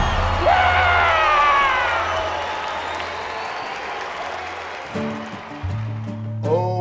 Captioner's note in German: applaus